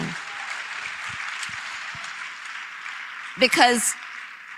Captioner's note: applause